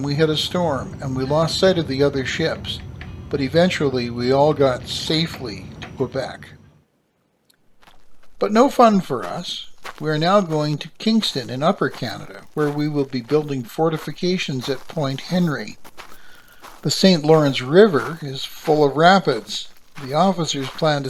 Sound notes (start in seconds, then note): 9.6 men marching